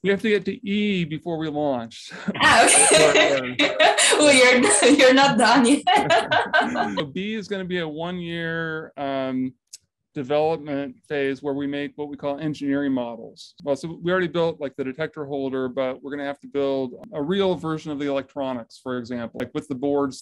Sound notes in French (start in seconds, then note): 6.6 rires